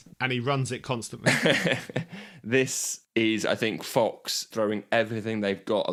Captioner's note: laughs